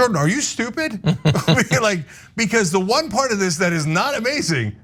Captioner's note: laugh